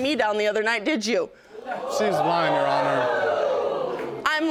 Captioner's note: audience exclaiming